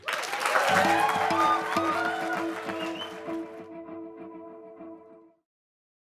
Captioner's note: applause